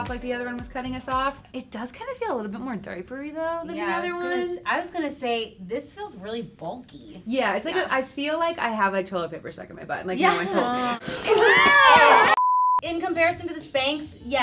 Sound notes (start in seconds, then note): 11.2 screaming